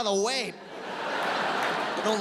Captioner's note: audience laughs